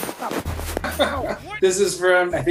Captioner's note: Andy laughs